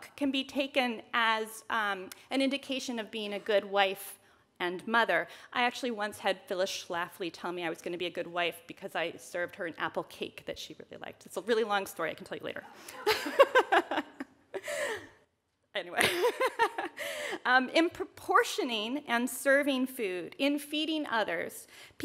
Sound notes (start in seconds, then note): 11.8 audience laughs; 14.5 laughs